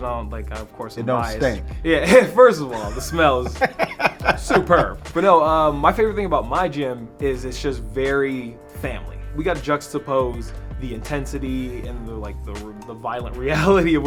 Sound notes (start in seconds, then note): 2.6 laughing; 2.6 Spice laughing